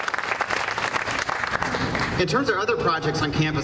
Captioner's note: applause